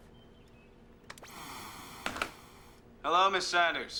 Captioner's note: static